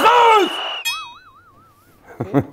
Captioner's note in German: Boing; Kichern